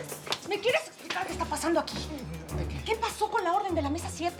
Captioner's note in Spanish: Palmada